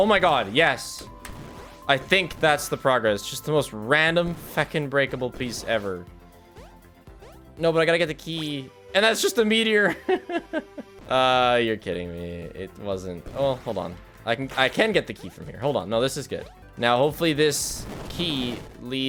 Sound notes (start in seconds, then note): 9.9 laughs